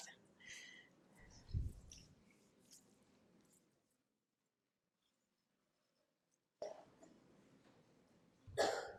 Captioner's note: pause